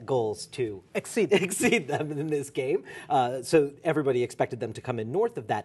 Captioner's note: laughter